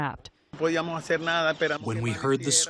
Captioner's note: through translator